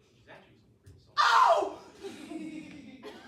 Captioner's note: screams